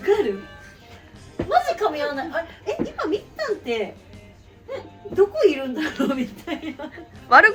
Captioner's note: laughs